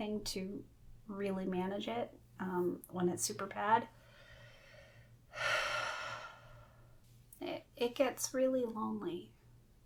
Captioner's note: breaths deeply